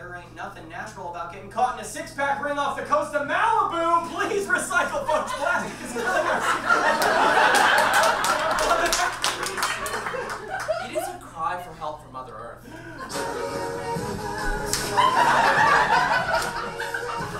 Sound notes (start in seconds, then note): 9.4 audience laughs and claps; 14.7 audience laughs